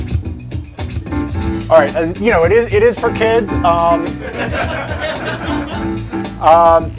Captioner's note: laughter